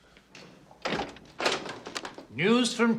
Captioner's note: door opens